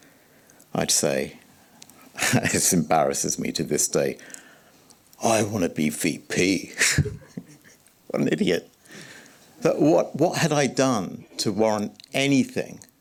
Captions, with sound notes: I'd say... [chuckles] It embarrasses me to this day. I wanna be VP. [laughs] What an idiot. But what had I done to warrant anything?